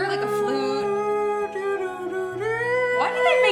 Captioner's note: humming